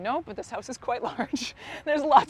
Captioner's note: laughs